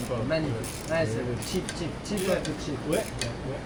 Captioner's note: speaking in foreign language